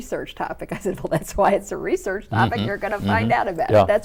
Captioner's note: laughs